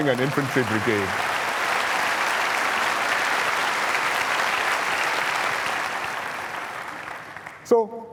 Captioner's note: applause